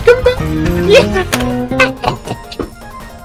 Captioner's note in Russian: охриплый смех